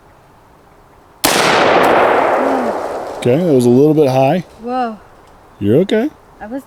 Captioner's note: gunshot